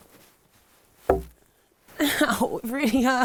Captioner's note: log thumping